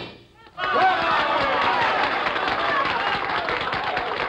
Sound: cheers and applause

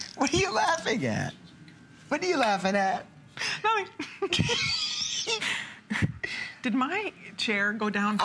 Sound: laughter

